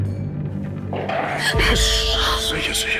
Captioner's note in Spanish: Exclamación